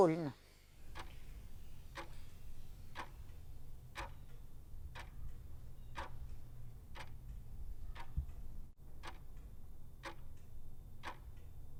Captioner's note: clock Sound